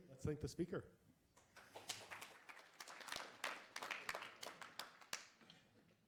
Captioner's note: applause